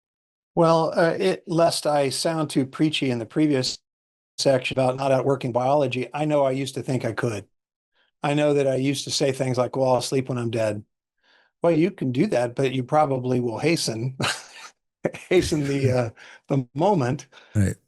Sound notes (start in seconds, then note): 15.1 laughs